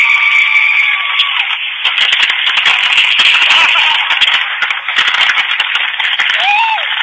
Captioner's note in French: feux d'artifices qui éclatent, gens qui crient